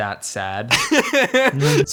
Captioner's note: laughs